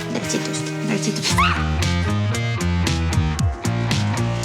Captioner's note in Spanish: Grito